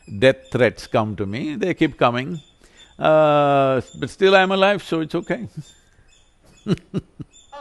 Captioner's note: laughs